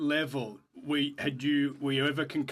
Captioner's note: speaking French